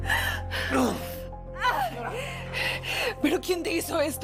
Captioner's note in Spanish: Quejidos